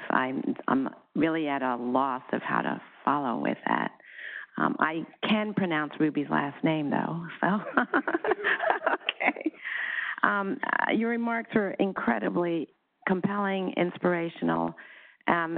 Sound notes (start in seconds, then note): 7.6 laughs